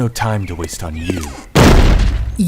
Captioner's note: door slams shut